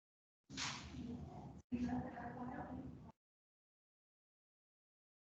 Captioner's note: people chattering softly